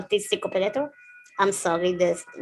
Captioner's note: ambulance noises